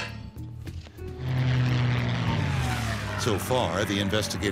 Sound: plane engine roars

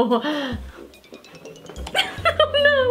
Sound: laughing

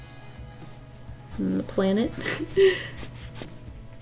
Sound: laughs

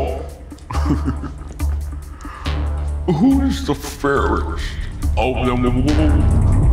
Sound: laughs

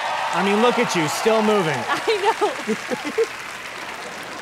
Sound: laughing

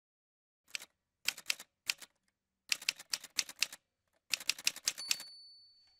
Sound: typerwriter sounds

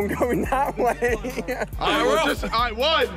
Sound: Ali-A laughs

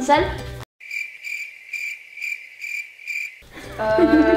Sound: crickets chirping

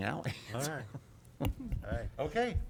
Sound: laughter

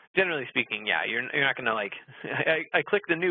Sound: laughs

